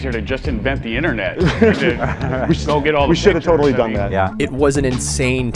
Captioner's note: collective laughter